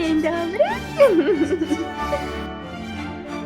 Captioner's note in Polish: śmiech